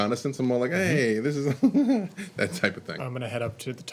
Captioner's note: laughing